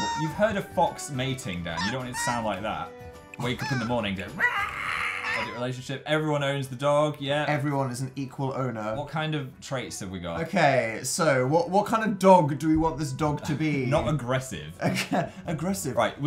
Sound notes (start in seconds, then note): 3.6 emulates Fox sound; 15.1 laughs